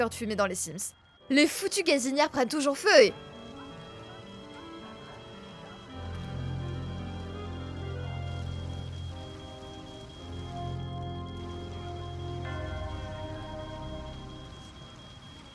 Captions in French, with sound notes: de fumée dans les sims. Les foutues gazinière prennent toujours feu et- *alarme incendie et cris*